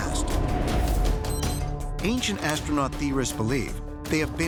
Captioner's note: beeping